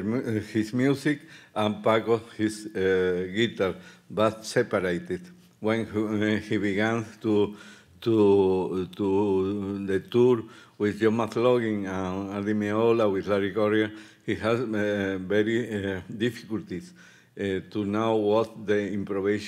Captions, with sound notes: his music and Paco his guitar, but separated. When he began to the tour with (speaking Spanish) he has very difficulties to now what the improvisation